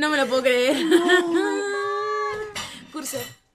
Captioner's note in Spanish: risas